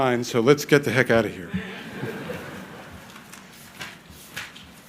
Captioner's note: crowd laughing